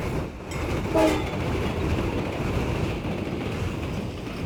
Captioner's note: train clattering